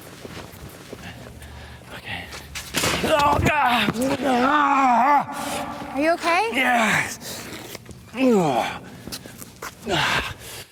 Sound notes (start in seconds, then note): 4.3 screams; 8.0 groans and sighs